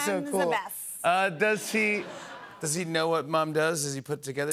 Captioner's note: laughter